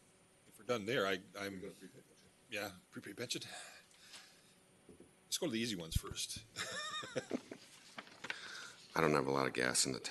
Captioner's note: laughter